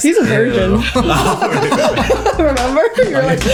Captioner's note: laughing